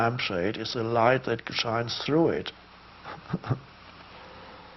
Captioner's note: chuckles